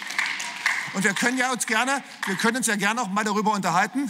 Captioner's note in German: Beifall